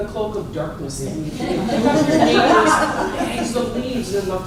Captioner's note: laughter